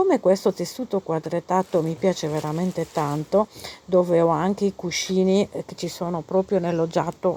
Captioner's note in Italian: sbuffare